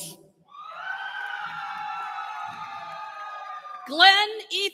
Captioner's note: cheering